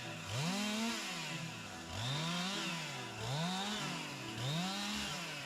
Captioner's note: upbeat music; machinery whirring